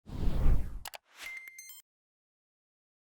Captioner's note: air whooshing; mouse clicking